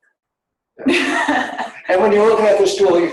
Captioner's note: laughing